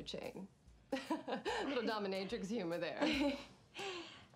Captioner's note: laughing